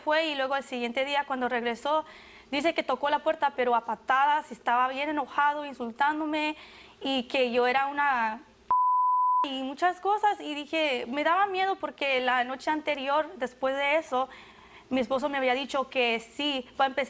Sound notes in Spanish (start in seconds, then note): 8.7 Bip